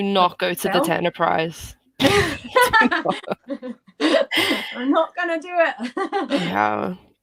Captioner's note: laughter